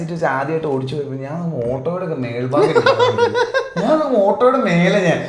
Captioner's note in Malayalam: പൊട്ടിച്ചിരി